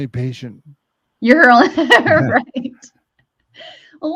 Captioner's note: chuckles